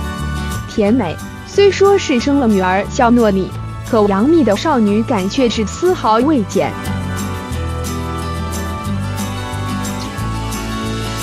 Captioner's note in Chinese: 甜美